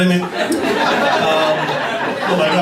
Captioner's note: laughter